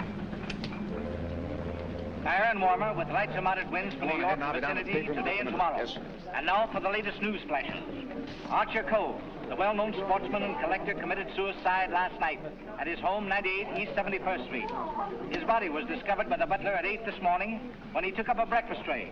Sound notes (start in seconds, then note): 0.6 man over radio